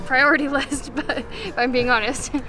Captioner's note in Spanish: risas